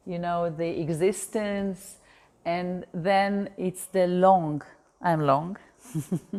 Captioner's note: chuckles